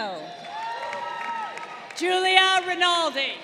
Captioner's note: crowd cheering